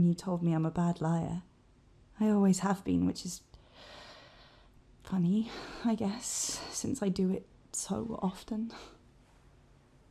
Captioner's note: sighs